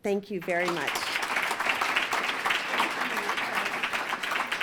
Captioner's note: applause